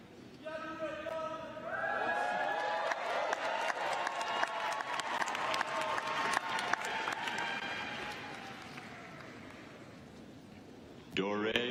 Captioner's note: cheers and applause